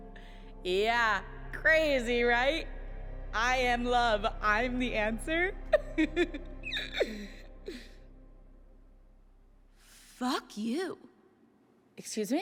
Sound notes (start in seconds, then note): 5.7 giggles